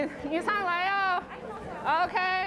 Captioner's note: speaks Chinese